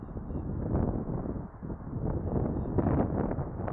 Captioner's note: wind blowing